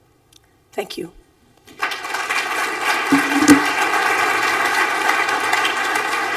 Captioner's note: applause